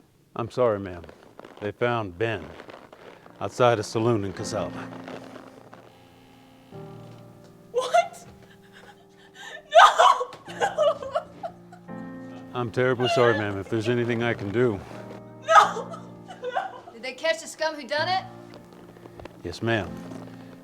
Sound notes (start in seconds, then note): 5.7 melancholy piano music; 10.8 sobs; 15.4 sobs